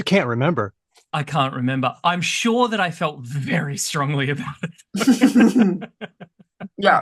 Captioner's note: laughs